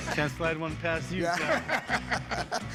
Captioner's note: laughter